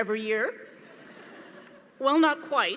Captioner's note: audience laughing